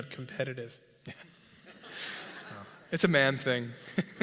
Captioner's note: laugh